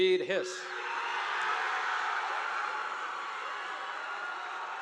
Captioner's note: audience applauding